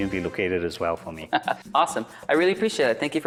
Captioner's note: laughs